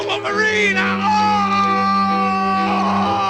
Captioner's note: loud cry